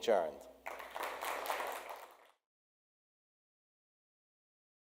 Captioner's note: audience claps